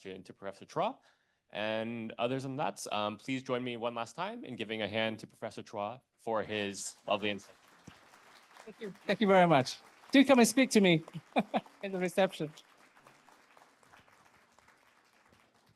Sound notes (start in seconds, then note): 8.1 audience applauding